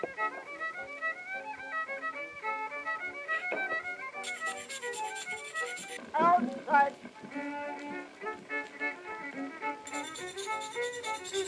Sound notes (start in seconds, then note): 4.2 sound of shaved pastels; 9.8 sound of shaved pastels